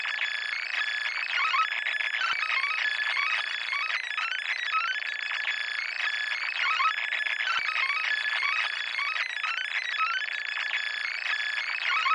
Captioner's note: applause